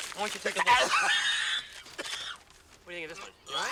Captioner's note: gagging